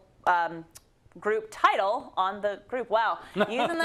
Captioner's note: laugh